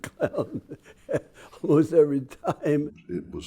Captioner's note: laughs